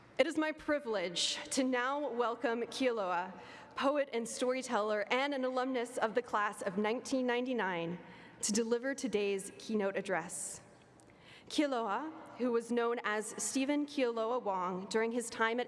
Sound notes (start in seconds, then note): none